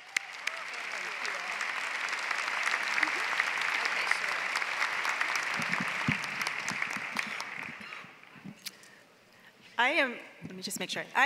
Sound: applause

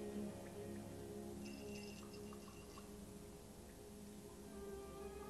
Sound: faint jingle of bells from Fortunato's costume

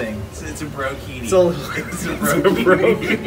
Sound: laughter

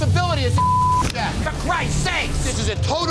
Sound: beep

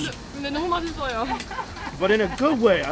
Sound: speaking in foreign language

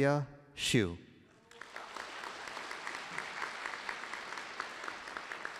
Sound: applause

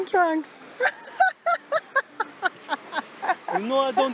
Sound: laughs

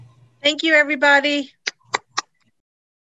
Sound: claps

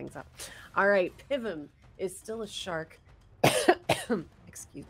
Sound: coughs

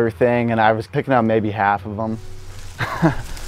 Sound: laughs

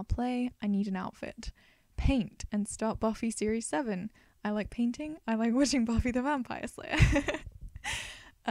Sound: laughs

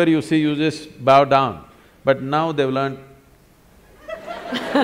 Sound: laughter

